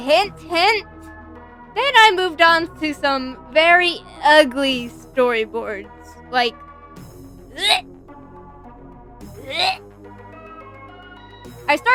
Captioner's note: gags; gags again